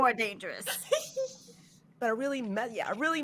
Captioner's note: laughing